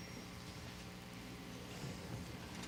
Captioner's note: none